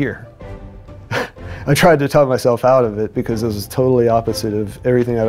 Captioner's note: chuckles